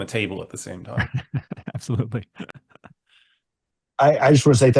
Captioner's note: laughs